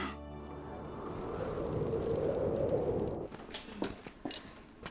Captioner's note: wind howling